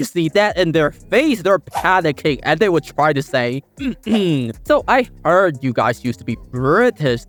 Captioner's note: clear Throat